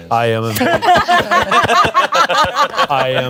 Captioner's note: everyone laughs